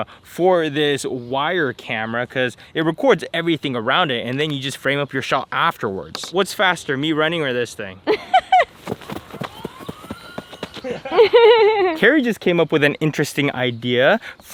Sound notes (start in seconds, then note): 8.2 woman laughs